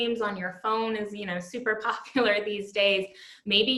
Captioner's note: laughter